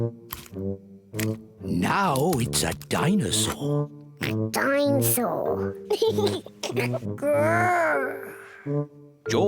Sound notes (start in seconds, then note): 5.9 laughs; 6.1 oinks